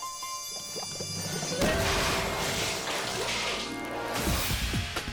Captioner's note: suspenseful music; juice splashes